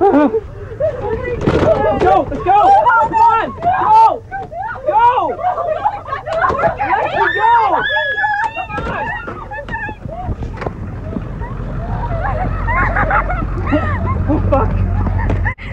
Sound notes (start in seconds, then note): 3.0 everyone screams; 6.8 screaming; 11.7 sobbing